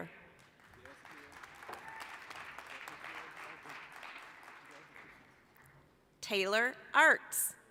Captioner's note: applause